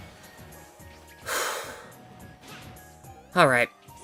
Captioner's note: deep breath